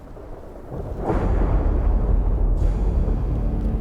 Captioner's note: thunder rolling; dramatic music